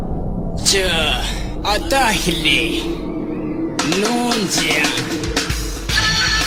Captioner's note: singer speaking in foreign language